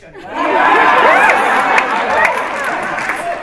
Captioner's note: laughter